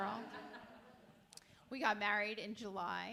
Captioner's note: audience laughs